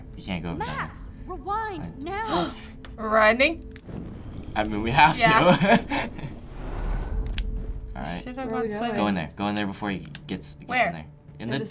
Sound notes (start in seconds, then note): 2.5 gasps; 5.6 laughs